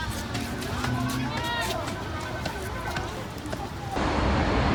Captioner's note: crowd murmuring